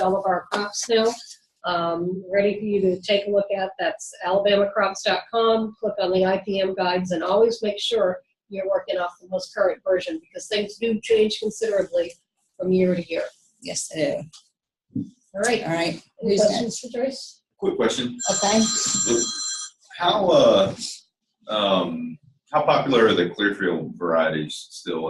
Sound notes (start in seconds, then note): 18.2 phone rings